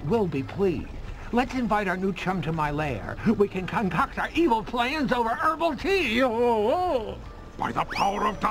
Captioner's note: laughs